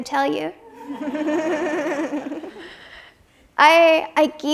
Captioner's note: audience laughs